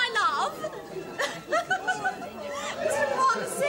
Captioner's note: giggles